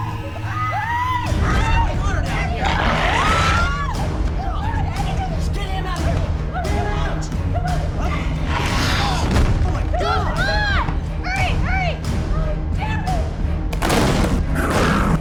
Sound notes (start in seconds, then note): 7.9 growling; 14.1 growling